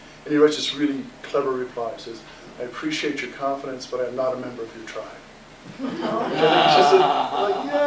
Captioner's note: laughter